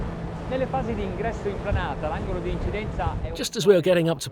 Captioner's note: speaks Italian